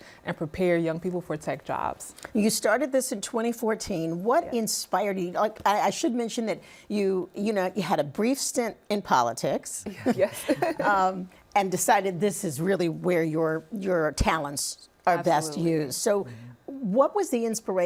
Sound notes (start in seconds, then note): 10.2 laughs